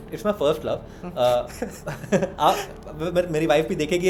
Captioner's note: laghter